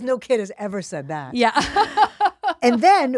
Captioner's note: laughs